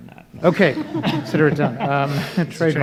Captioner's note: everyone chuckling